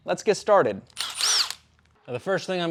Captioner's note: screwdriver rasping